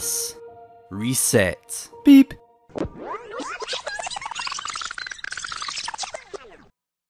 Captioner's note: beep and Rewinding sounds